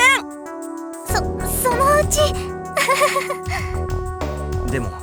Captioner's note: awkward laugh